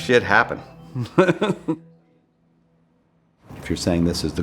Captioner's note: chuckling